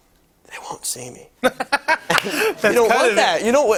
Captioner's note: laughs